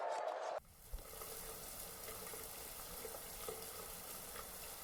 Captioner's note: water sprays